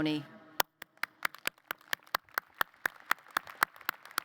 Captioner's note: applause